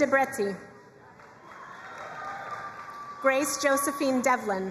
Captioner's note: crowd cheering and applauding